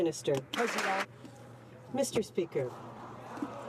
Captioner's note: some Applause